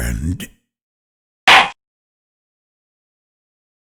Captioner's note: gavel slam